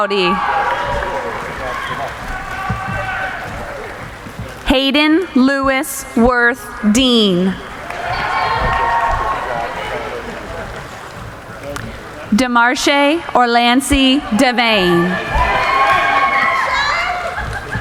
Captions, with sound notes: Hayden Louis Worth Dean. (cheering) Demarshay Orlancey Davane. (cheering)